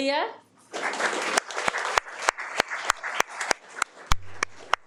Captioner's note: audience applauding